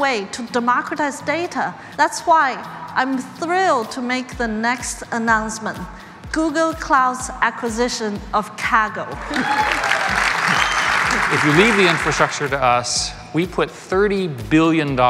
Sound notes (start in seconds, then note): 9.2 applause